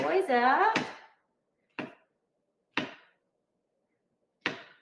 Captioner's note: knife thumping